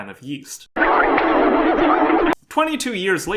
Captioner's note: static